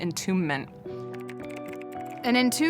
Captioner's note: typing sounds